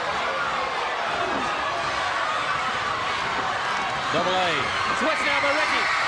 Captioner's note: crowd cheering